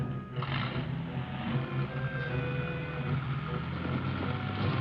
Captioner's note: car engine revving